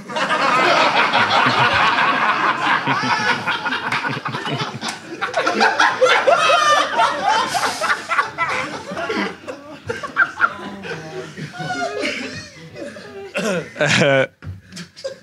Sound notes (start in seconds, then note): 0.1 audience laughs; 3.8 Sidemen laugh